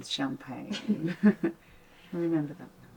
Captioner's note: Tilly and Linda chuckling